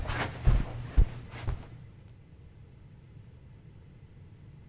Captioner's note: feet walking